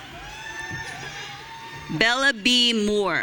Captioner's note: audience cheering